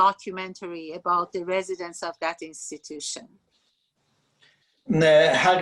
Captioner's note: speaking Farsi